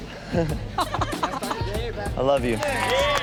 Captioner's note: laughs